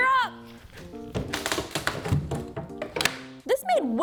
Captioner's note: box crunching